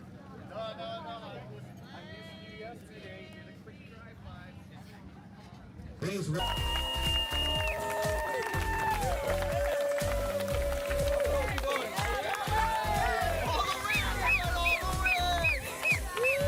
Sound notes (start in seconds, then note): 0.0 chatter; 4.7 cheering; 13.8 whistling